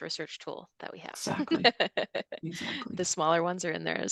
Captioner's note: giggles